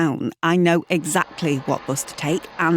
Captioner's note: bus sounds